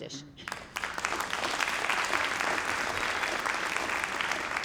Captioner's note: audience clapping